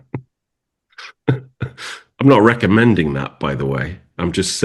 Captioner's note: laughs